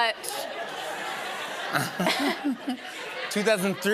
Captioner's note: laughter